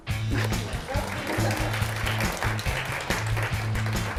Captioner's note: applause